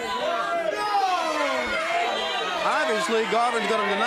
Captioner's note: crowd cheering